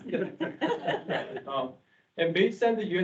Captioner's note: members laughing